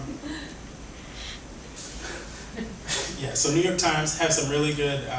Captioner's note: laughs